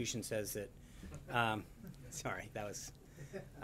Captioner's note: laughter